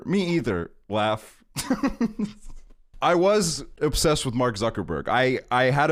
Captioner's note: laughs